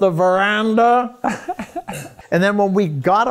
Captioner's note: laughs